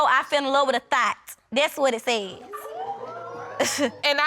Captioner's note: audience exclaims